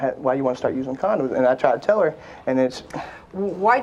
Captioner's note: sighs